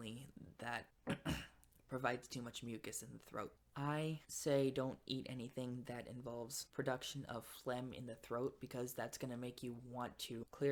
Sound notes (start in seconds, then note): 1.0 clears throat